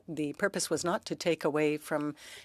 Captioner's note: speaking French